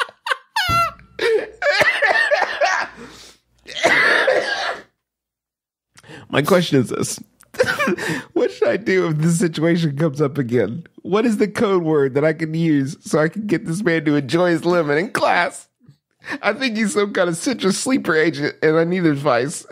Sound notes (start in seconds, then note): 0.0 laughter; 2.9 gasp; 3.6 coughing